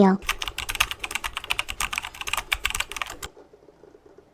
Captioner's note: keyboard typing sounds